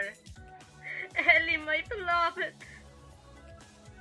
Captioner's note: chuckles